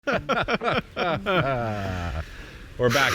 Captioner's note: both laughing